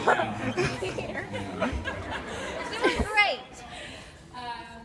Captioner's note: laughs